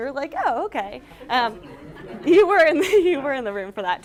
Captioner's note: laughter